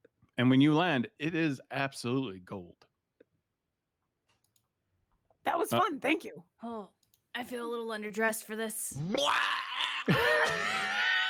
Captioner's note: makes a throwing up sound